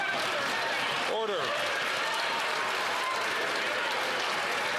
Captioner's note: some Applause